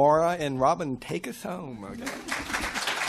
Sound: applause

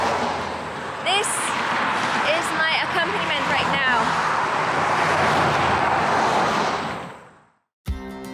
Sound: passing cars; fast moving traffic; high energy music

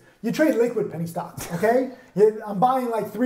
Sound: chuckles

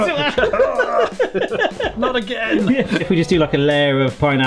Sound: laughs

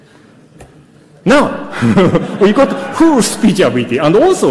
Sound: laughs

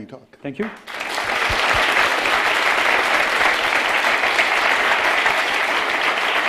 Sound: applause

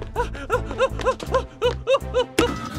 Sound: panicked breathing

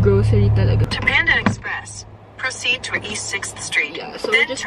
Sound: voice Operator in GPS

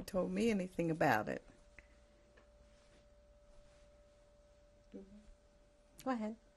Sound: pauses for 3 seconds

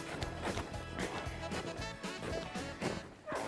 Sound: dogs barking; snow crunching

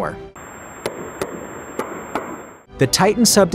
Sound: tapping

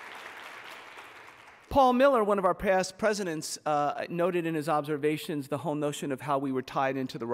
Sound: applause

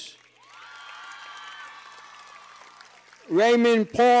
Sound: cheers and applause

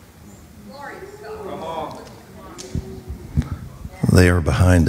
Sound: congregation chattering

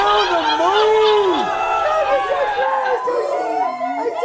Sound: laughter

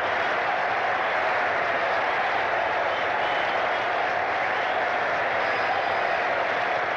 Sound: crowd applauding and cheering continues

